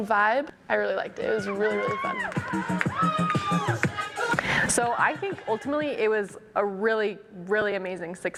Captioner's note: clapping and music